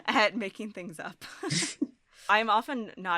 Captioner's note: chuckles